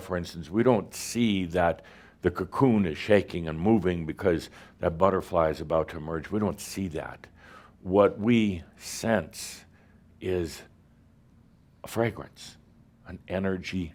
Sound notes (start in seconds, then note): none